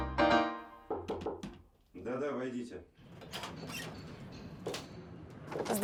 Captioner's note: knock on the door